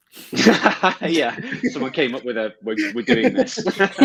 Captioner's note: laughs; all laugh